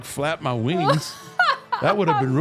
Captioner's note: laughs